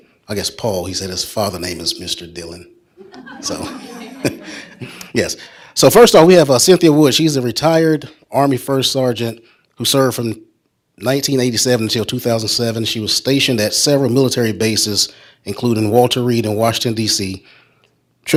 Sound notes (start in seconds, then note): 3.0 audience laughs; 3.0 chuckles